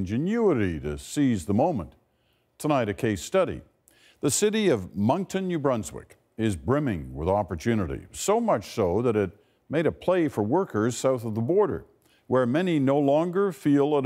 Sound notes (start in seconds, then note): none